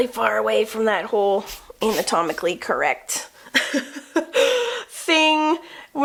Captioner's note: laughs